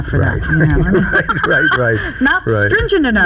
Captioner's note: both laughing